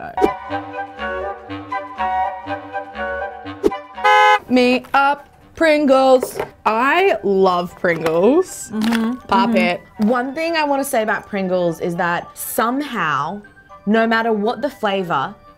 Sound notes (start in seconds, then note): 0.3 playful music; 3.7 horn honks